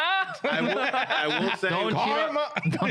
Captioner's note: laughing